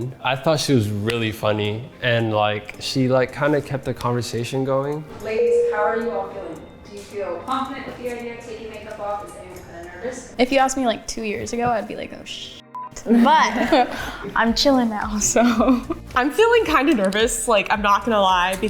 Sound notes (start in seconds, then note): 12.7 beep; 13.2 everyone laughing